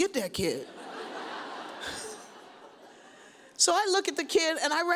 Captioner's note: audience laughs